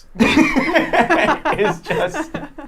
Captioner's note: laughing